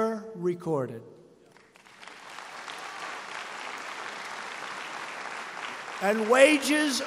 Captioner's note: applause